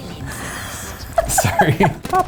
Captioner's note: laughs